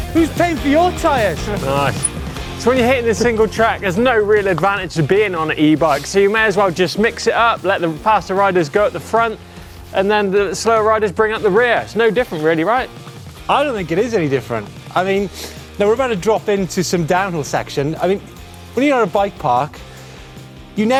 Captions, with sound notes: - Oh! Who's paying for your tires? (groaning) So, when you're hitting a single track, there's no real advantage of being on an E-bike. So you may as well just mix it up, Let the faster riders go at the front, and then the slow riders bring at the rear. It's no different really, right? - I don't think it is any different. I mean, we're going to drop into some downhill section. When you are in a bike pack,